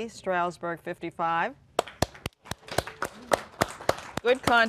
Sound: applause

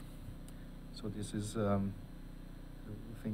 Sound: speaking softly

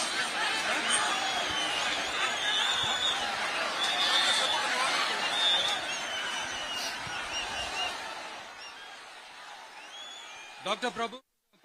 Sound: applause

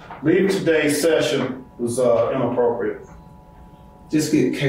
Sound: none

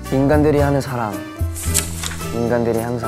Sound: flap

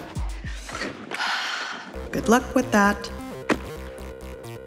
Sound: sighs

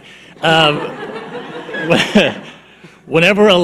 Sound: audience laughing

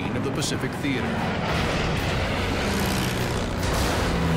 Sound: explosion

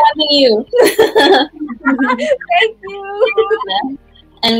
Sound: laughing

